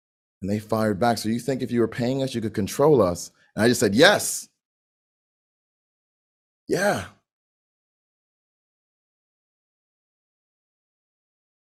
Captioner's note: silent pause